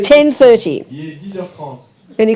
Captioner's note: audience member speaks in French